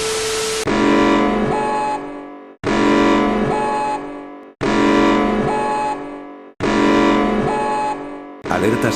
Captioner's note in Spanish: sonido de alarma